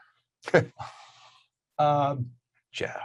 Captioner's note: laughing